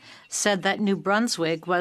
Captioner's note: speaking French